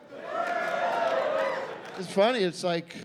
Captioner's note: scattered cheering